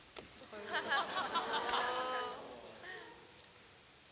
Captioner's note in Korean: 웃음